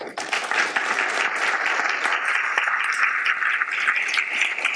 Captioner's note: audience applauds